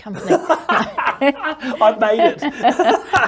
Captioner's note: both laugh